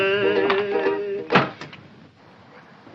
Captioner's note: slams